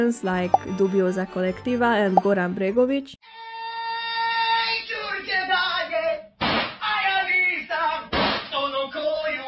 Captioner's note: bang; bang